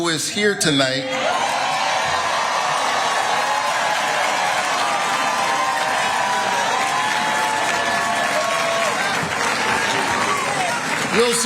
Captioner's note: applause